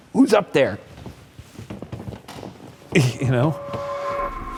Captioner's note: wood creaking